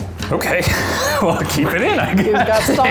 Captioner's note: laughs